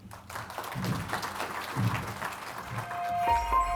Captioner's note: audience claps